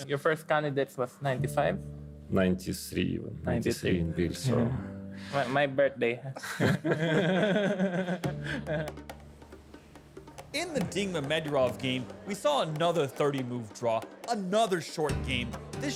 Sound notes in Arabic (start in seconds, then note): 6.4 كلاهما يضحك; 8.4 موسيقى خافتة